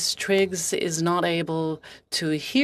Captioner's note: speaking french